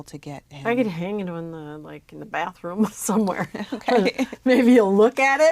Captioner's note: laugh